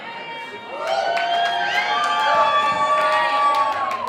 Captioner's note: crowd cheers